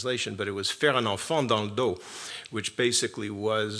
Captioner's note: speaks french